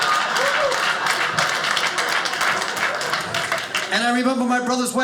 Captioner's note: audience laughing; audience applauding